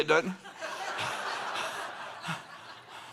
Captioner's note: laughter